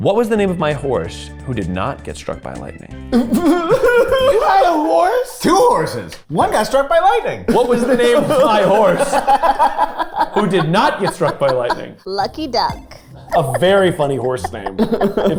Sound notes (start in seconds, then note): 3.1 laughing; 7.9 group laughing